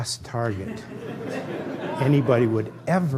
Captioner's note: laughter